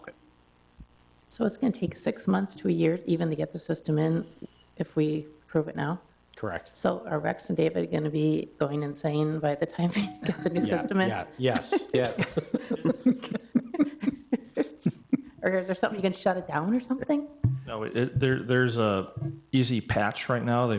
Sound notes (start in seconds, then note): 13.4 attendees chuckle